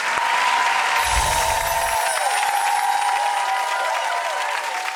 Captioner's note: audience cheering and applauding; laser swoosh